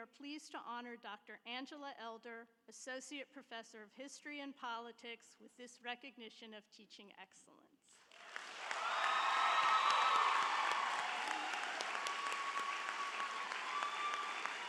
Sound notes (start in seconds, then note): 8.0 audience applauds; 8.1 audience cheers